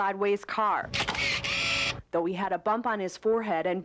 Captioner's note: camera shutter clicks